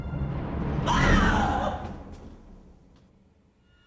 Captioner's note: screaming